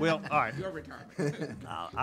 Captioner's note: laughing